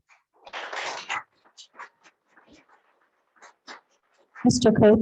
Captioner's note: attendees clapping